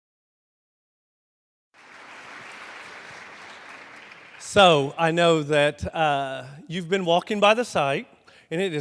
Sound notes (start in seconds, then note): 1.7 crowd clapping